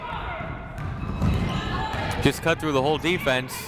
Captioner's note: people shouting in the crowd